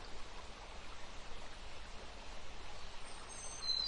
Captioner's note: sounds of water and birds